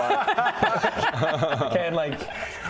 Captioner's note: relatable laughter